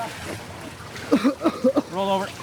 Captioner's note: student coughing